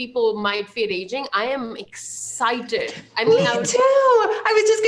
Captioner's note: chuckles